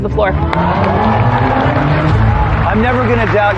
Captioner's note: cheering and applause